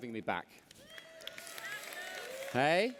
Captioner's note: applause